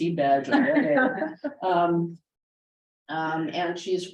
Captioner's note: laughter